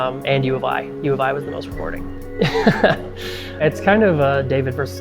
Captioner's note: laughs